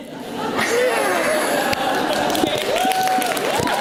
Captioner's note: audience laughs; audience cheers